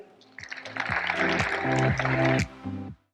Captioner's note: upbeat music; audience applauding